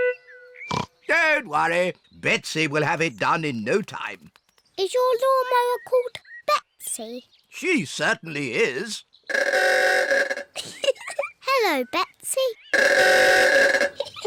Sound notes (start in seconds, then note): 0.3 snorts; 9.3 horn bellows; 10.5 giggles; 12.7 horn bellows; 13.9 all giggle